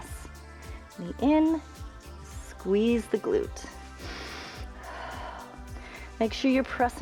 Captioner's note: inhales and exhales